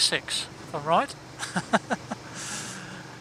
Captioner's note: laughs